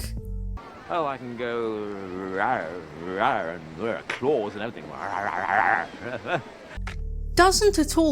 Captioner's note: awkward growling noises; more awkward growling